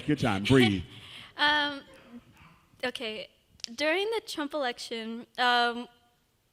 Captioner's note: laughs